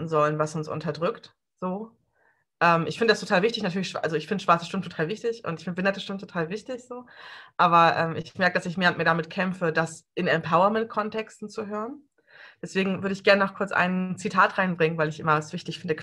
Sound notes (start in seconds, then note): none